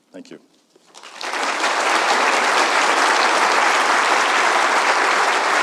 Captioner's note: audience applauding